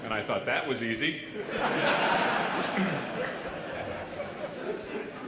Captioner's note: laughter